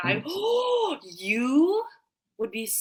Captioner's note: microphone distorts; gasping